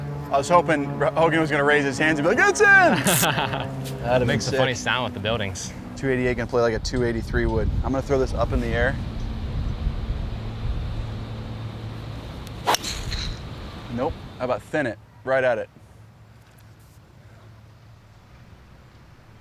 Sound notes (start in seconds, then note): 2.9 laughs